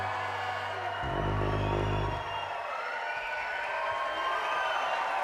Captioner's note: audience applauds and cheers